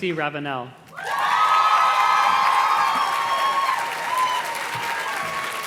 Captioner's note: audience cheers and claps